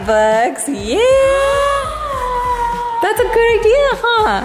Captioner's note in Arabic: تلهث بشدة